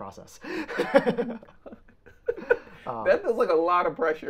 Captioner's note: both laughing